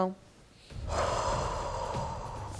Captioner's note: sighs